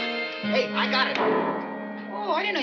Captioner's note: piano keys clacking